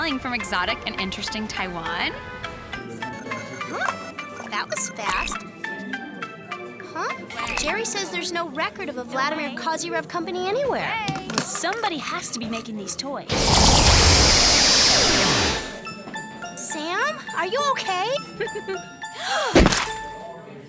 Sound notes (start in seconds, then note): 2.8 ringtone; 13.3 zapping